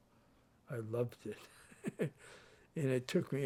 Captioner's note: chuckles